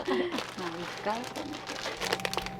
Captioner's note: laughter